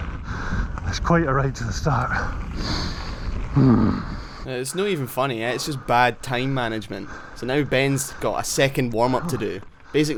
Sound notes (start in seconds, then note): 3.6 groaning; 7.0 breathing heavily